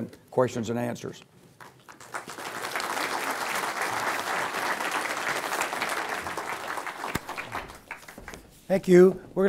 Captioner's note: applause